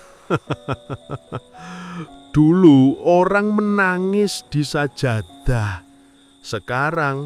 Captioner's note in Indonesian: tertawa